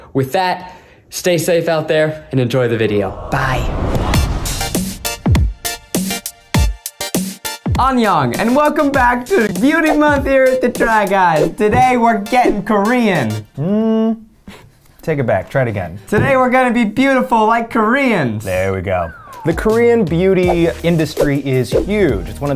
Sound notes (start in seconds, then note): 3.9 upbeat music; 7.8 speaking in foreign language